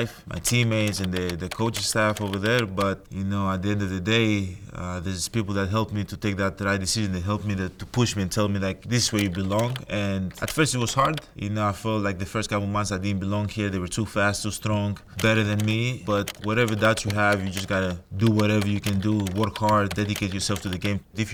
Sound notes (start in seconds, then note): 9.1 keyboard clicking; 16.1 keyboard clicking